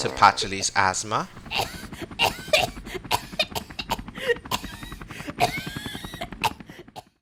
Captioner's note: coughing